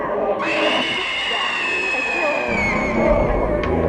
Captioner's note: prolonged, blood curdling shriek